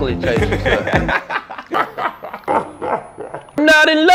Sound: laughing

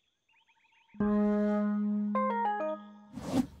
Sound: high pitched honking; xylophone music

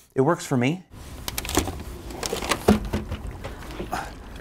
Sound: plastic creaking; water splashing; sighs

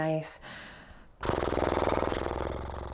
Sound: blows through lips

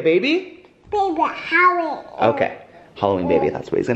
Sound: baby mumble

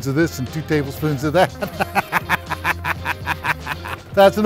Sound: laughs

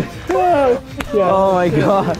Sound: laughing

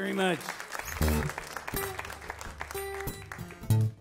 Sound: audience claps

